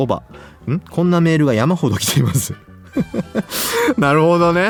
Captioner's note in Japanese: 笑い